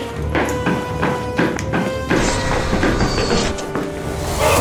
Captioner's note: automatic door closes; snapping fingers; doctor struggles and groans